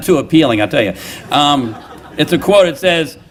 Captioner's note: laughter